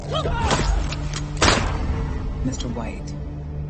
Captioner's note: gun shot fires